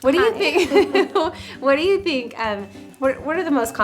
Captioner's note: laugh